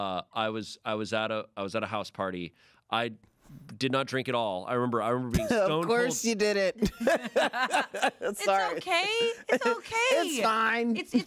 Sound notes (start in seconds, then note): 6.8 laughs